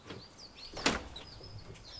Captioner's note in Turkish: Kapı Açılıyor